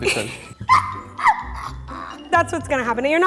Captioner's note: laughing